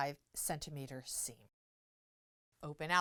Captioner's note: no Sound Present